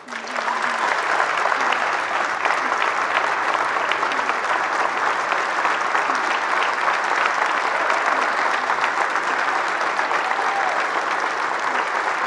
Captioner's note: applause